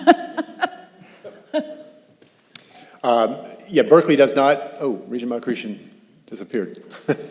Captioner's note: laughter